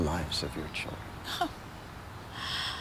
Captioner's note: chuckles